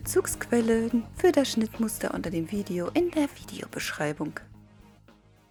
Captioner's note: only in German